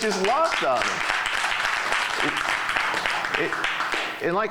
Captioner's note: clapping